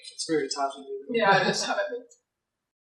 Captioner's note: laughter